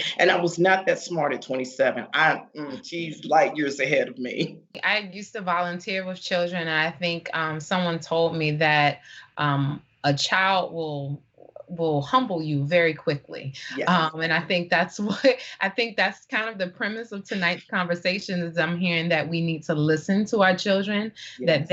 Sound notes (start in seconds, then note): 2.8 crowd laughing; 4.3 laughing; 13.6 laughing